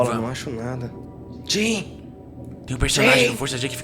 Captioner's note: whispering